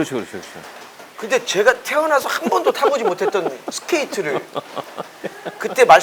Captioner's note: laugh